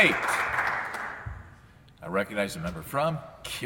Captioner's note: some Applause